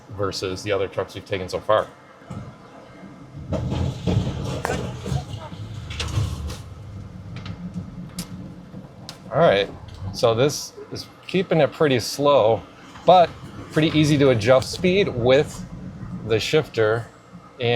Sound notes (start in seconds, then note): 3.2 truck thudding